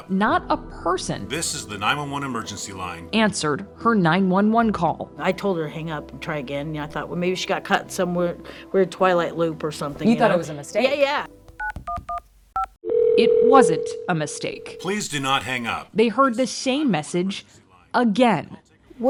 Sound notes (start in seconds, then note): 1.5 automated Voice; 12.8 phone ringing; 14.9 automated Voice